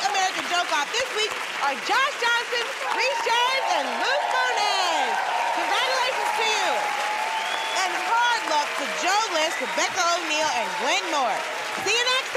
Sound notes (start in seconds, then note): 6.1 cheering and applause; 7.2 whistling